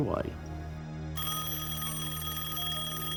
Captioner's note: phone ringing